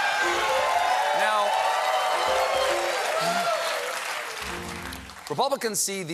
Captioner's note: cheering; piano riff